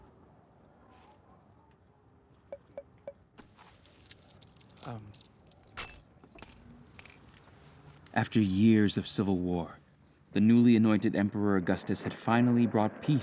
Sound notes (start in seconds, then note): 3.6 coins jingle